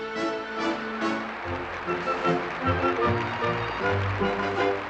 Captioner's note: audience Applauding